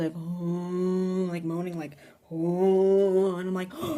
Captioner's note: moaning